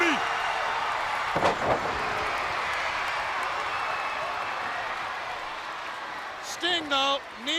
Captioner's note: crowd cheering